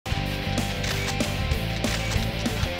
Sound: camera shutter clicking

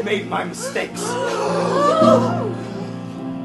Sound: council gasps

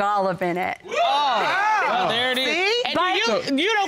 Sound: all exclaiming

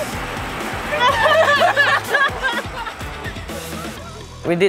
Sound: laughters

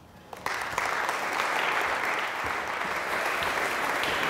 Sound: audience applauding

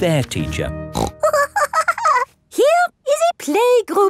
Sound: snorts and giggles

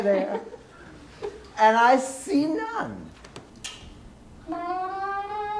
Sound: woman is laughing

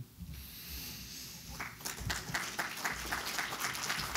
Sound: applause

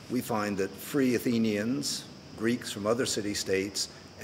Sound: none

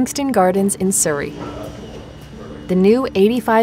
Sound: people chattering

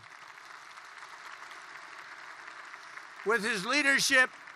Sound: applause

